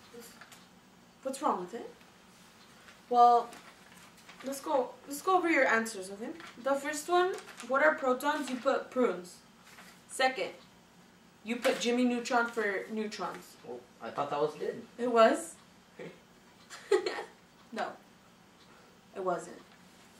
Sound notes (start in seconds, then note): 16.7 both chuckle